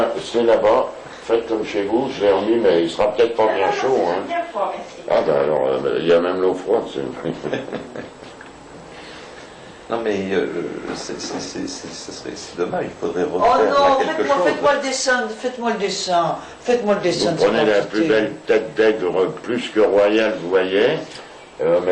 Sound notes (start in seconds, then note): 7.2 laughs